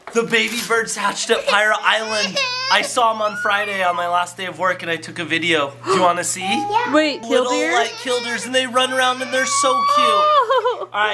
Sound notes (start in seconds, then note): 1.1 cries; 5.8 gasps; 10.0 exclaims